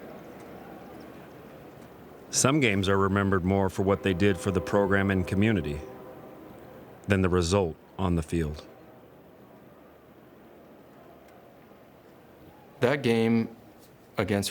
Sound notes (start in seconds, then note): 1.3 wind blowing